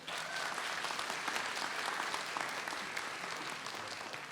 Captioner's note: audience applauds